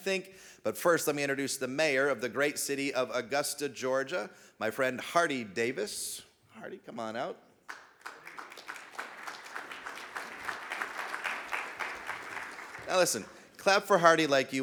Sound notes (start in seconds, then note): 9.2 audience clapping